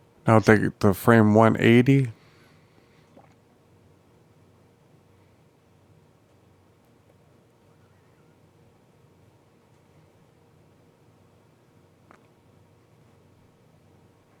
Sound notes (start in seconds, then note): 2.1 silence